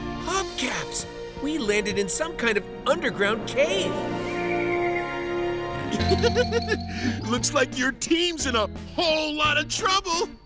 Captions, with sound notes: Hubcaps, we landed in some kind of underground cave. [laughing] Looks like your team's in a hole lotta trouble.